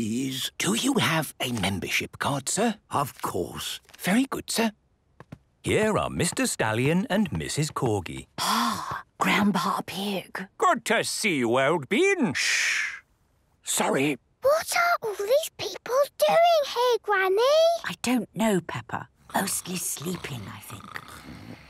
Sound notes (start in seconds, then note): 13.0 whispering; 14.4 quietly; 21.5 snoring